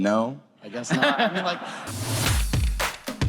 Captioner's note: audience laughter